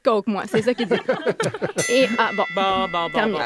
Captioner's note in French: ding!